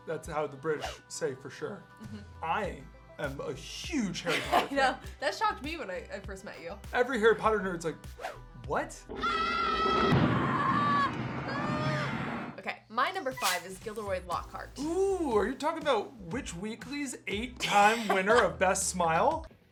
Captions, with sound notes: That's how the British say, for sure. Mhm. I am a huge Harry Potter fan. I know. That shocked me when I first met you. Every Harry Potter is like, what? [SCREAMING] OK. My number five is Gilderoy Lockhart. Ooh. Are you talking about Witch Weekly's eight-time winner of Best Smile?